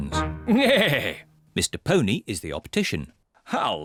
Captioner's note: neighs